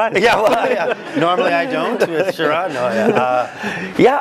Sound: laugh

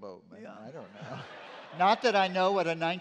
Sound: laughter

